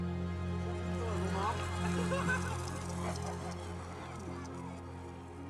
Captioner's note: Diana laughs